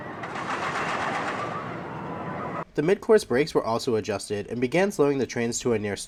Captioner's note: play trim brake sounds